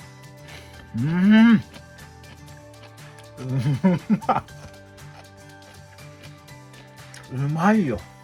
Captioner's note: laughs